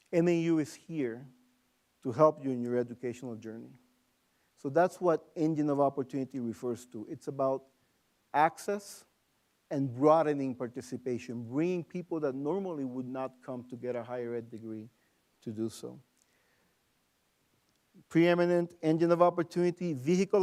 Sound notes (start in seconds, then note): none